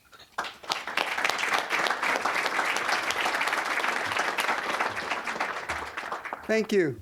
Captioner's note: applause